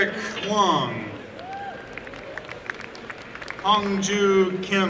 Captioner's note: applause and cheering